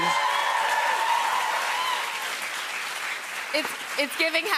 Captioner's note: cheers and applause